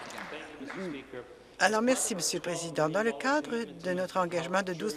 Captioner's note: applause